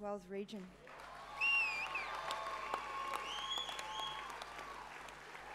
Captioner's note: applause